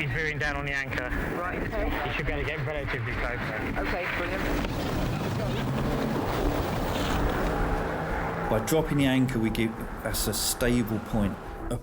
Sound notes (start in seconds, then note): 5.1 engine rumbling